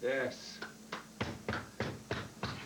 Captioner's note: all clapping